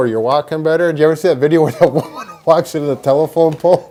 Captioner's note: laugh